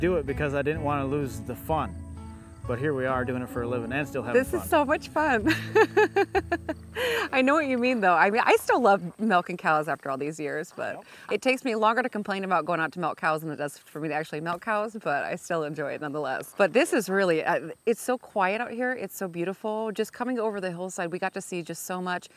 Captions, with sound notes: because I didn't want to lose the fun, but here we are doing it for a living and still having fun. - This is so much fun. [laughing] I know what you mean though, I mean I still love milking cows after all these years, but it takes me longer to complain about going out to milk cows than it does for me to actually milk cows, but I still enjoy it nonetheless; but this is really, it's so quiet out here, it's so beautiful, just coming over the hillside, we got to see just so much